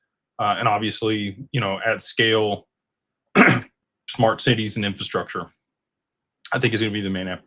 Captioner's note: clears throat